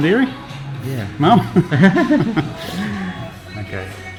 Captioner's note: laughing